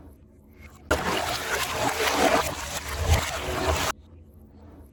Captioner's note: water Splashing